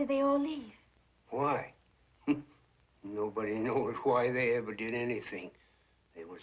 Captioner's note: laughs